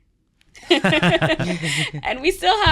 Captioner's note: both laughing